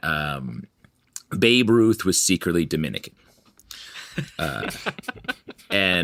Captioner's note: laughing